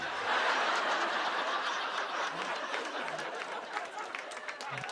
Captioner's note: laughter